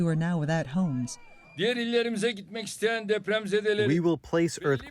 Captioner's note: through translator